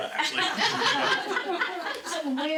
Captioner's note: laughing